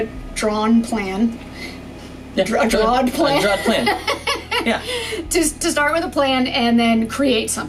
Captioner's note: stammering, laughing